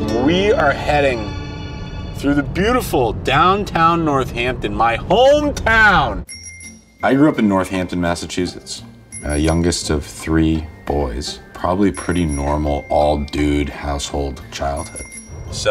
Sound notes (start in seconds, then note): 6.2 bell dings